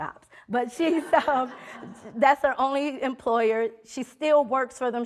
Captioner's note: audience laughing